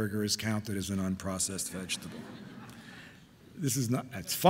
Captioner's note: audience laughing